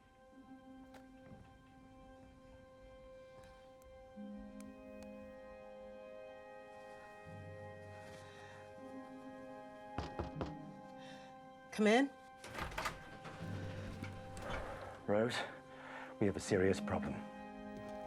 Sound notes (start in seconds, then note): 0.1 somber music; 9.9 knocks on door